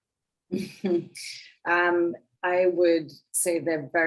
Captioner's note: woman chuckling